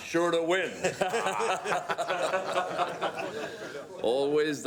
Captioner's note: cabinet members laughing